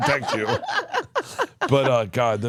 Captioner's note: laugh